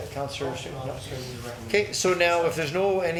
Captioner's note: councillor speaking off microphone